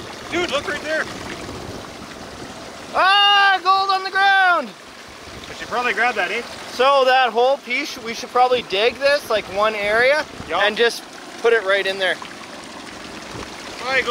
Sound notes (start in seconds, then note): 2.9 shouts; 12.6 water burbling